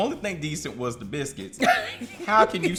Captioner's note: laughs